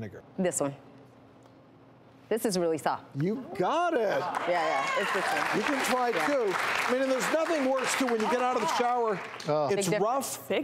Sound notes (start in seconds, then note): 4.2 applause